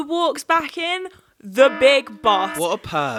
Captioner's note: siren blaring